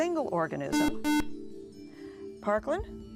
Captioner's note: buzzer